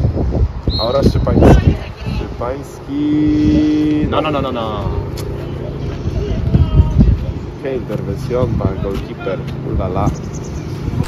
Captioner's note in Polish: komentują w obcym języku